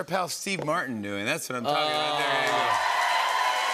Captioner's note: cheers and applause